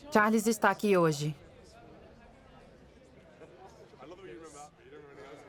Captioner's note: soft talking